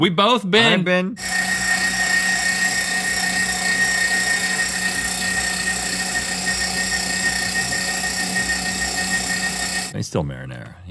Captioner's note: meat grinder sounds